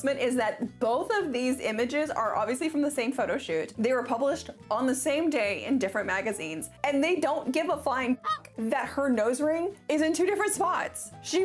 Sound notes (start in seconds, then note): 8.2 goose noise